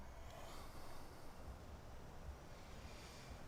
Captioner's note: sighs